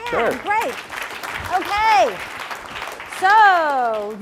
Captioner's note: applause